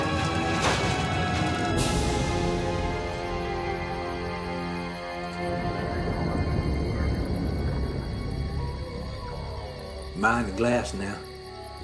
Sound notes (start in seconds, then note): 3.8 forest sounds; 6.7 police chatter over walkie-talkies